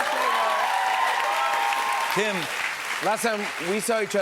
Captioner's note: cheers and applause